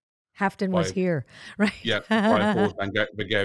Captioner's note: laughs